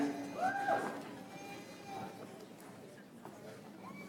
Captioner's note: audience applauds